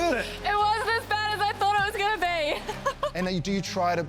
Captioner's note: laughs